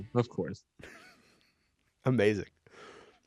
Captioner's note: chuckles